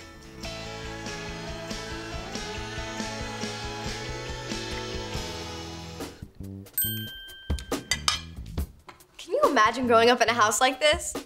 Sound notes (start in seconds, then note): 7.5 clanking